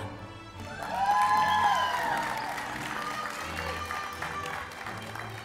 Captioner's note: cheering, Applause, Music